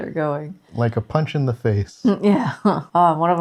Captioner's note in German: Lacht